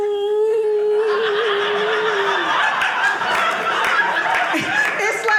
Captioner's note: audience laughing